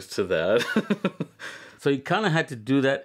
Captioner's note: laughter